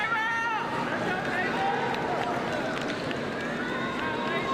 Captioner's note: people cheering